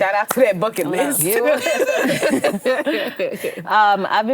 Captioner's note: all laugh